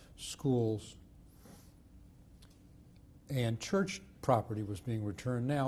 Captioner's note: pauses for 3 seconds